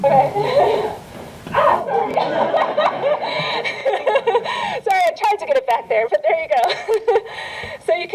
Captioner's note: laughter